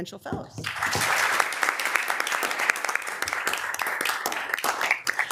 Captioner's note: members applauding